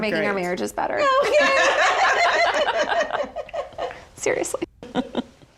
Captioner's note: all laugh